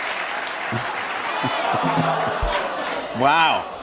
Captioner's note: applause continues; audience ohhs